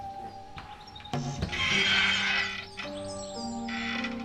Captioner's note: door creaks